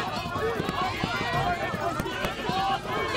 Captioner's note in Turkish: Hep bir ağızdan